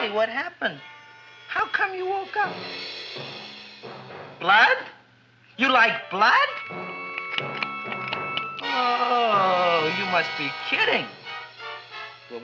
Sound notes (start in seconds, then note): 6.8 Audrey Jr. snapping